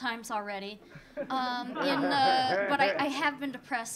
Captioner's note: audience laughing